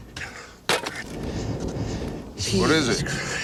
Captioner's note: shovel hits something